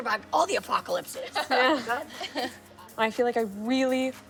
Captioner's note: laughing